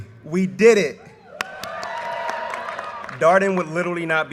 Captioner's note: audience cheers and applause